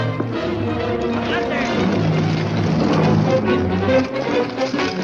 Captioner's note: officer yells in Spanish